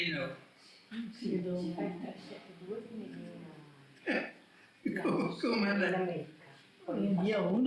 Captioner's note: chuckles